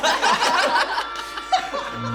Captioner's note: everyone laughs